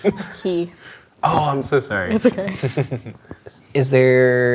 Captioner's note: chuckling